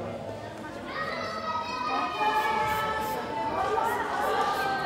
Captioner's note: children mumbling